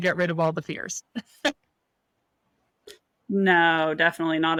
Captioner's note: laughs